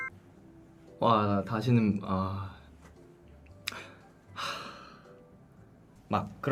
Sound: deep sigh

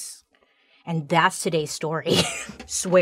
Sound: exhales sharply

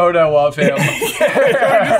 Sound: brothers laugh

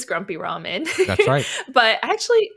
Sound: laughs

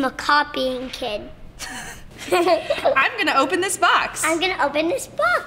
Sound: laughing

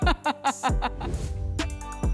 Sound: laughs

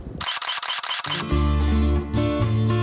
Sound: camera shutter clicking

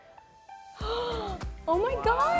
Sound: gasping

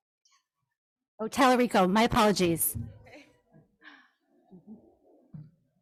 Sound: laughs

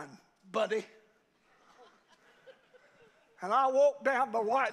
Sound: congregation laughs

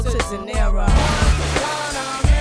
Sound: glass shattering

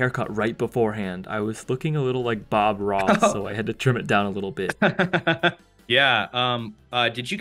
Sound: laughing

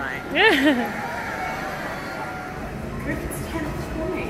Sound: laughs

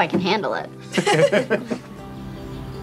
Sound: all laughing; mid tempo music

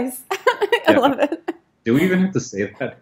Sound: laughing

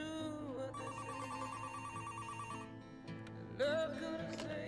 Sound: phone rings

